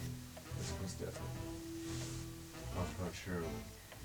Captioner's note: whispering